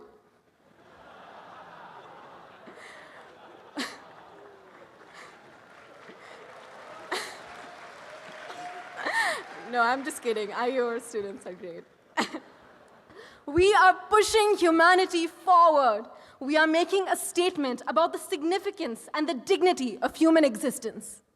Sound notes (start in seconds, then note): 0.2 audience laughs; 5.0 applause